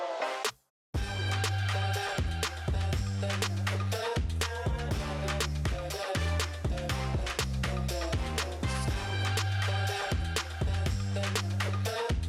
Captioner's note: cheers and applause